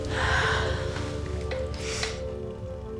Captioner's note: sighs